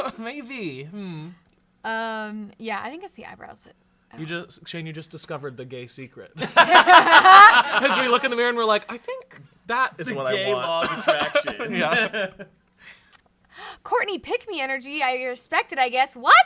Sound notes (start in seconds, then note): 6.4 everyone laughs